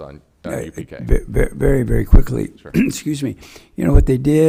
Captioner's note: clears throat